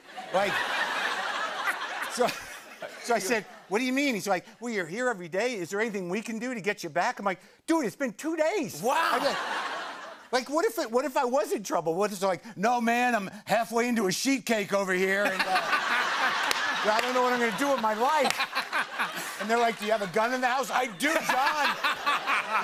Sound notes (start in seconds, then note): 0.0 laughter; 15.2 laughter